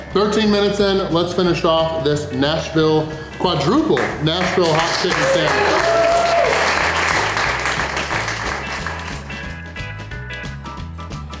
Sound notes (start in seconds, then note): 3.8 crowd clapping and cheering